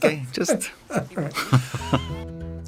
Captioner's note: laughs; upbeat music